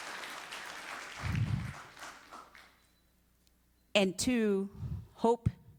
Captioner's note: applause